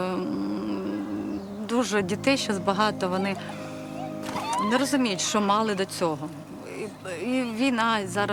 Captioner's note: emotional children's screams